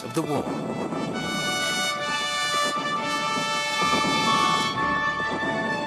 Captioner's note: heavy artillery booming